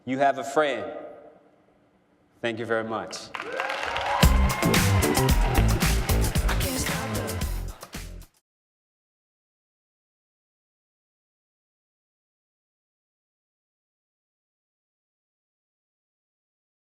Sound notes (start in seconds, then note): 3.2 applause and cheering